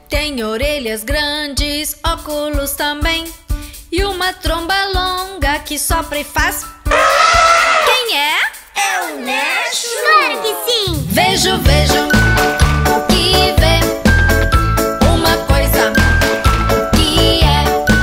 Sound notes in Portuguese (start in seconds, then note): 6.8 Som de elefante